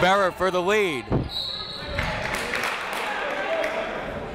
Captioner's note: whistle